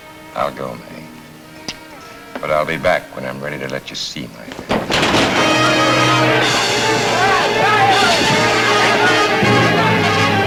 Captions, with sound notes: - I'll go, Mae, but I'll be back when I'm ready to let you see my hand. (table crashes) (dramatic, exciting music)